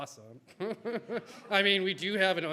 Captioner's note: everybody laughs